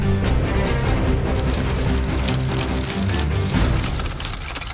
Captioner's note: clicking